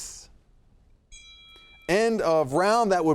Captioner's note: timer dinging